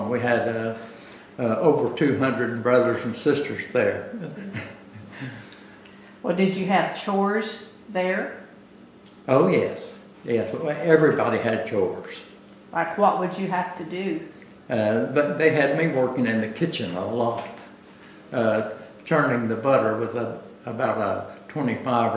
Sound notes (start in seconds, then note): 4.1 laughs